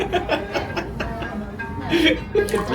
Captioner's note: laughs